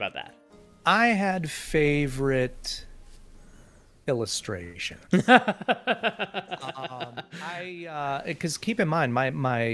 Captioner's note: laughs